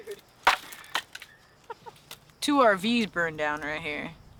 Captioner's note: laughs